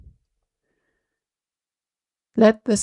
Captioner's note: short pause